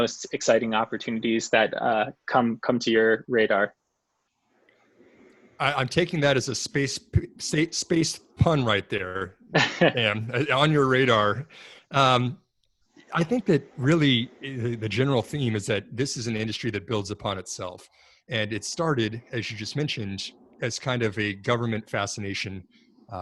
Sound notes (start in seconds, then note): 9.5 laughs